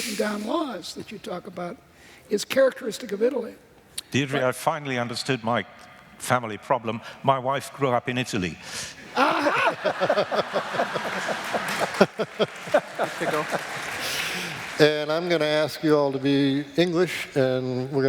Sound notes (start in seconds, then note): 9.1 laughter; 12.8 applause